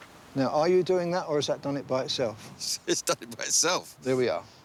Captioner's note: none